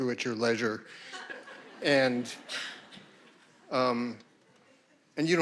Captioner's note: audience laughing